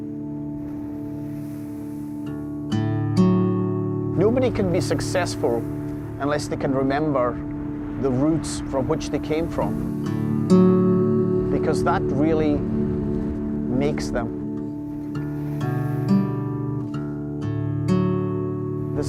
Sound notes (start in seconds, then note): 0.0 tranquil guitar music; 4.3 with Scottish accent; 15.1 tranquil guitar music